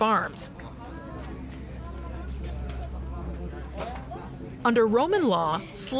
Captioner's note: romans chattering